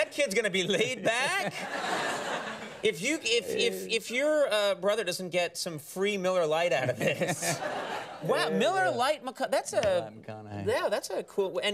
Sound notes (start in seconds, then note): 0.5 studio audience laughs; 6.8 studio audience laughs